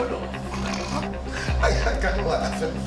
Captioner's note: laughing